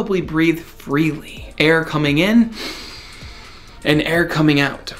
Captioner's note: breathes out; breathes in deeply